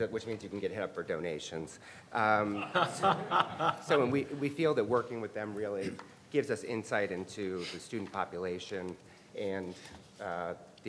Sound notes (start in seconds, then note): 2.6 everyone laughs